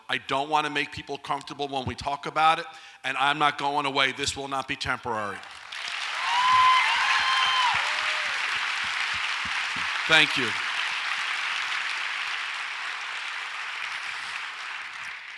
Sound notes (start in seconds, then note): 6.2 audience applauds and cheers